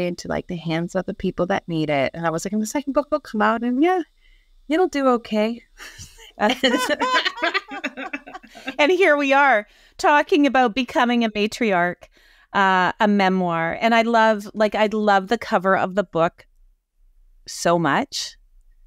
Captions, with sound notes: into like the hands of the people that need it." And I was like, "And the second book will come out, and yeah, it'll do okay." (both women laugh) - And here we are talking about "Becoming a matriarch: A Memoir." And I love, like, I love the cover of the book so much.